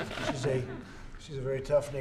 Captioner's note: laughter